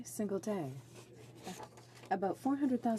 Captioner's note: speaking French